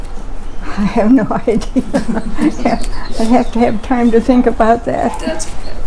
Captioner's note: chuckling